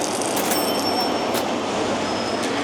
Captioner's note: crunch sound